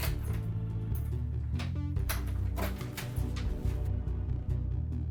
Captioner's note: lock clicking